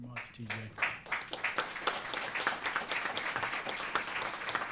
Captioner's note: applause